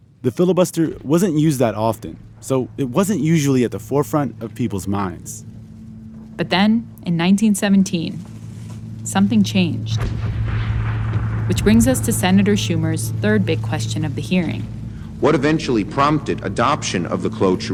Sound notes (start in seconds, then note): 9.9 soundbite of explosion; 14.4 soundbite of archived recording